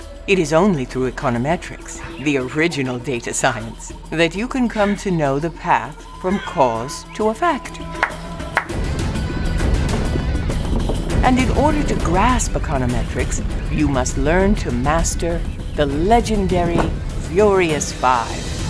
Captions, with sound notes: It is only through econometrics, the original data science that you can come to know the path from cause to effect. [claps] And in order to grasp econometrics, you must learn to master the legendary furious five.